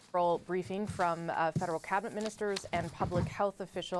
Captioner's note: speaking French